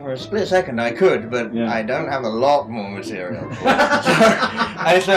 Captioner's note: laughs